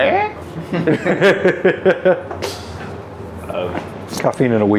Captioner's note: laughing